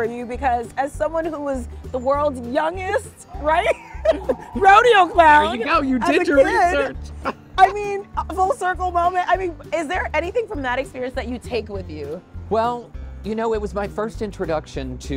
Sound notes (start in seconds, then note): 3.4 laughs